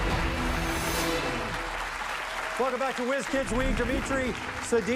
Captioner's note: dramatic music; cheers and applause